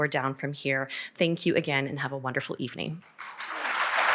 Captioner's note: applause